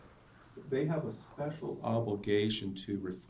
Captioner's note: voiceover